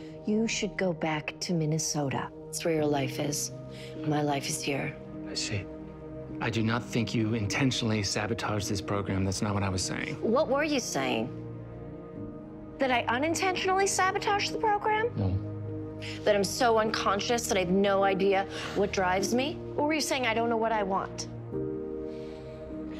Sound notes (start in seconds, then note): 19.1 sighs